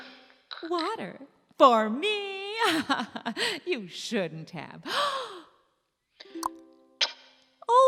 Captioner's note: gasp